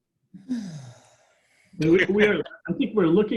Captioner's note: sighs